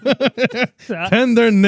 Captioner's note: laughing